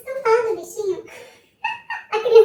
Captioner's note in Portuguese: Risos